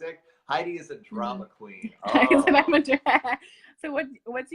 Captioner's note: laughs